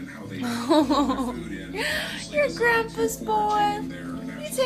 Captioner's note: laughs